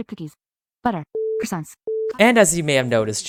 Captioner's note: beep